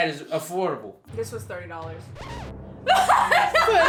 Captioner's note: laughs